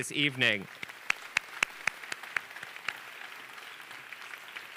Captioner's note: audience applauding